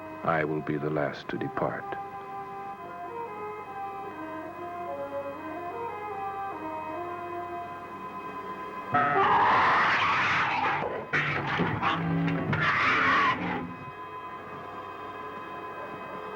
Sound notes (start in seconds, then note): 9.0 growling